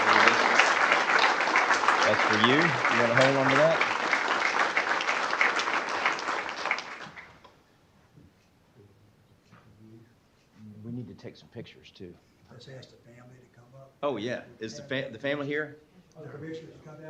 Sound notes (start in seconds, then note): 3.0 applause